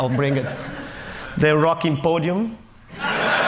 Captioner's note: Laughter